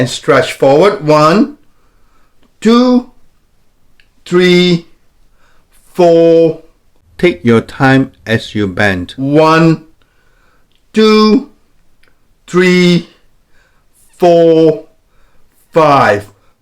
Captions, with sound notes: Both hands behind your head, and stretch forward, one, two, three, four. - [Voiceover] Take your time as you bend. - One, two, three, four, five.